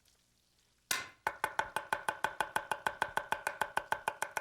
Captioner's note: chopping